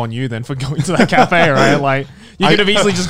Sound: laughing

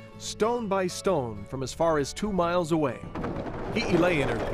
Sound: stones falling

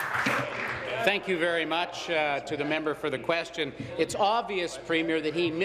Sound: applause

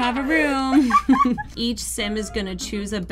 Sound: laughs

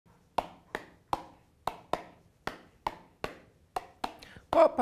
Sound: tapping a beat

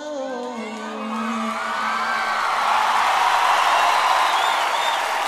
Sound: audience applauding

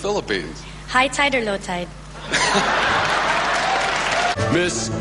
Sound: audience laughs and claps

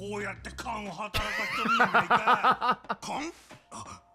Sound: laughs

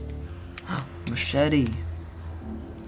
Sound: gasps

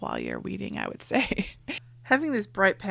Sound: laughs

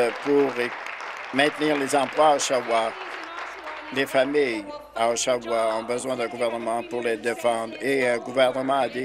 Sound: applause

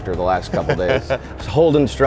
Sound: laughing

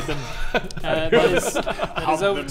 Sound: very mature laughter

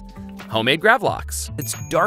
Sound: bell dings

